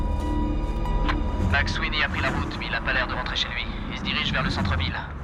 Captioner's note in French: à la radio